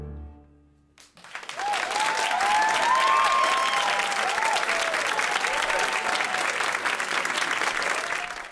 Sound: applause

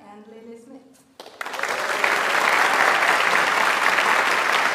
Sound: audience applauds

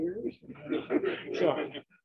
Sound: laughter

